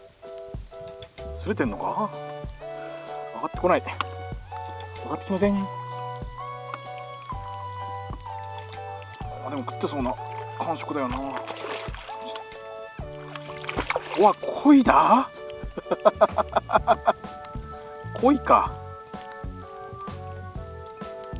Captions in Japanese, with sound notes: スレているのか、上がってこない･･･まったく上がってきません でも食っているような感触だよな～ あ、鯉だ[笑い] 鯉か～！